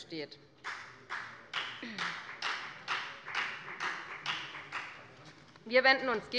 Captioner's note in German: Beifall bei der FDP